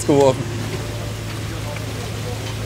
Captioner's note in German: Motorengeräusch